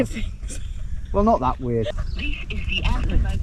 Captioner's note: farmer chuckles